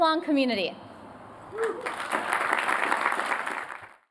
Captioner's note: applause